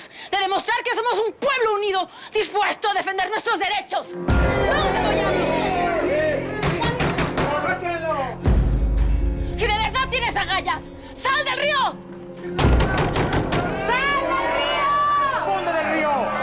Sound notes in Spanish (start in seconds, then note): 6.6 Golpes en la puerta; 12.6 Golpes en la puerta